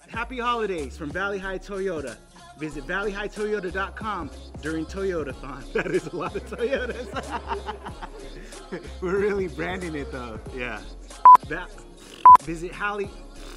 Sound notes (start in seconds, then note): 8.1 laughing; 13.4 blowing raspberry